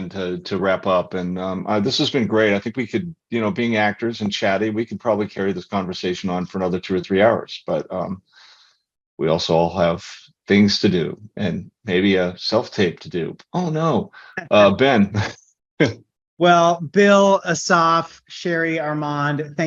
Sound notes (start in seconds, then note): 14.2 laughs